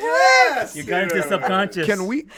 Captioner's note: group chuckling